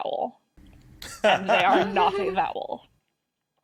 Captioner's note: laughs